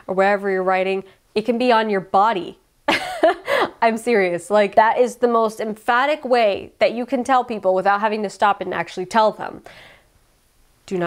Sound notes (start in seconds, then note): 2.9 laughs